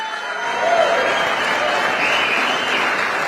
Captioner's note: applause